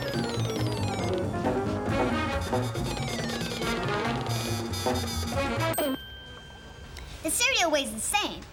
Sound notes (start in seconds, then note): 5.7 bell dings